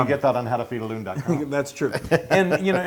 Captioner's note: laugh